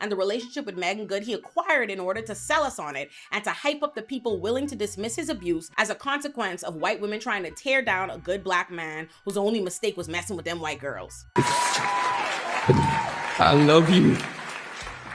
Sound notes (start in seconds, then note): 11.4 audience applauds